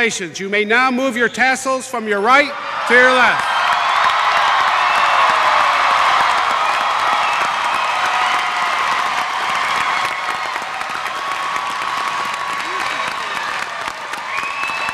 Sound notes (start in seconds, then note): 2.4 cheering